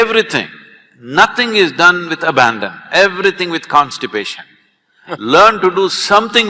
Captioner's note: Karan Johar laughs